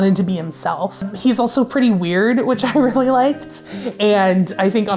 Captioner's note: chuckles